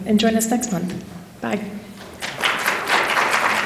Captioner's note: applause